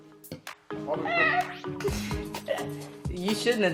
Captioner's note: boy laughing